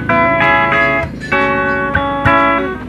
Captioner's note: tires screeching